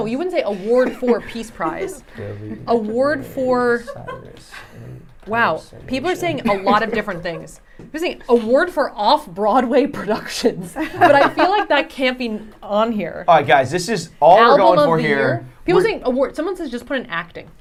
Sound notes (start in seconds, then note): 2.7 laughing